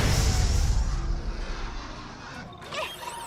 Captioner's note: chattering